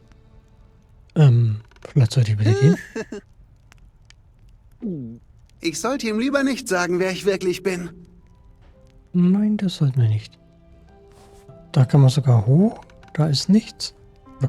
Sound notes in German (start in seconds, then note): 2.4 gelächter